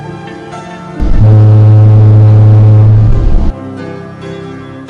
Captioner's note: honk